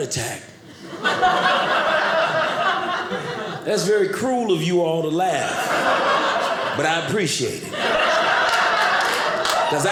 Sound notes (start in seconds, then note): 0.7 audience laughing